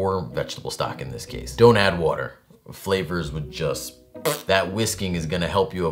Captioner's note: fart noise